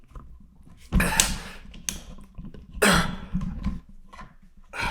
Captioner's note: Jacob coughing